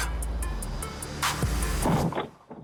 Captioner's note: loud bump; uneasy music